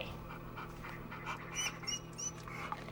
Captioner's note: dog panting and whimpering